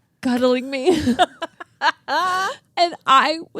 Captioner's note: both laughing